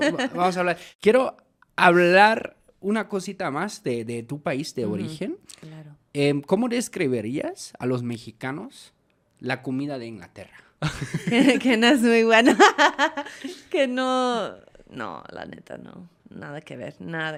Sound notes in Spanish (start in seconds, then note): 14.7 risas